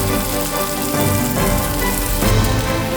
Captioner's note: groan